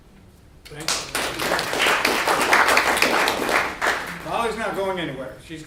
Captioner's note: audience clapping